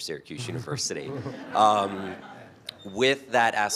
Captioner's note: laughter